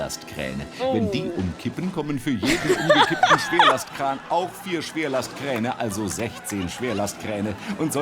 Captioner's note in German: lacht